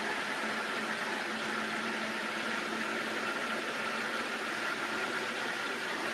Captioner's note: blender whirring continues